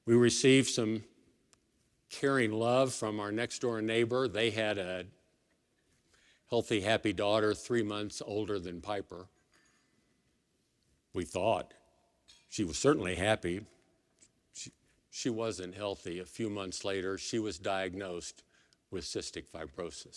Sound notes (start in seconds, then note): none